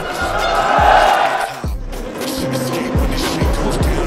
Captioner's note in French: Applaudissements